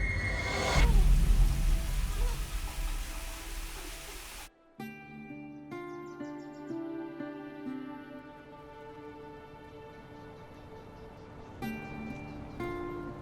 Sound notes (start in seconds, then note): 4.7 birds chirping